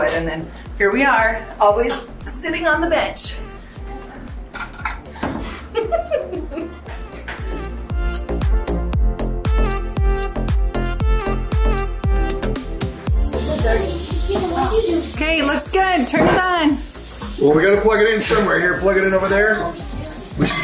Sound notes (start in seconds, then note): 5.4 laughing; 8.6 upbeat music